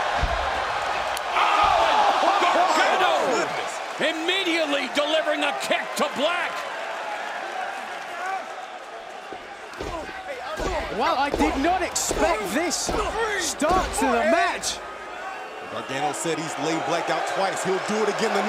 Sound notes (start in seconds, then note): 0.2 crowd cheering; 6.6 crowd chatter